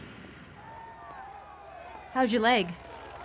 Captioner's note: all shouting